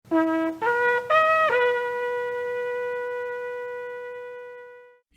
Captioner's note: shofar Blast